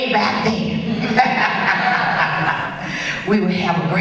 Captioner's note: laughs and audience laughs